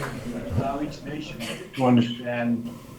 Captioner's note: audio disruption; laughter